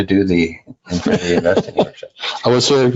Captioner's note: laughing